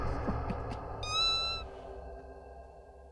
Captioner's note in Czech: mňau